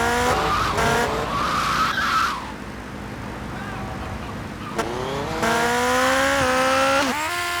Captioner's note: engine revving